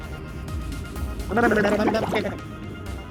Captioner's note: gurgling